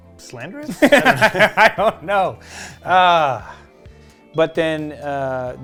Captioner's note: laughs